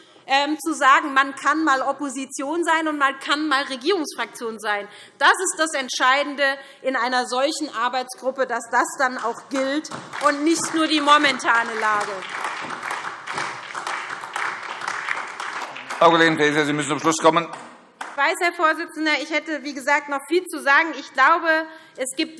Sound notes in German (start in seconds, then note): 12.6 Beifall SPD und vereinzelt AfD